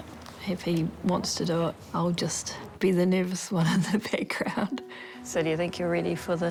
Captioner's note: chuckles